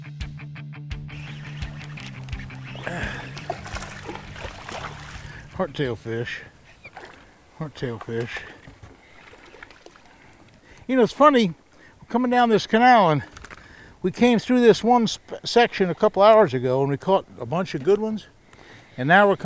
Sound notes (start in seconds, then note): 1.8 reel cranking; 3.4 fish splashing